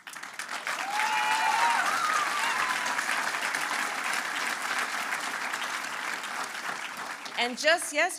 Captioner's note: applause